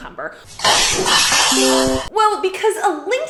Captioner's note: cat running